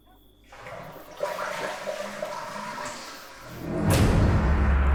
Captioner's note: toilet flushes; dramatic musical score